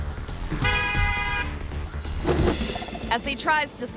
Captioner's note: gentle upbeat music; car horn honking